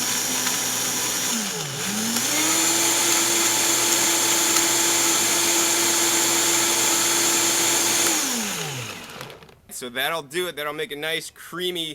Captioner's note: blender mixing